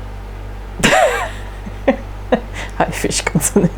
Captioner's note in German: lacht